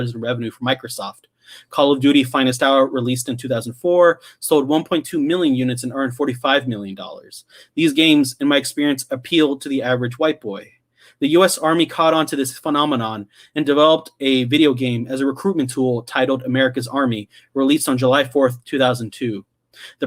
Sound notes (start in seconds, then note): none